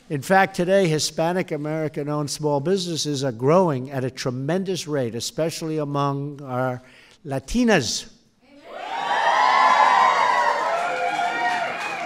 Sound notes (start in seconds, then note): 9.1 applause